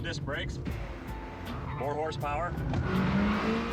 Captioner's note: tires screech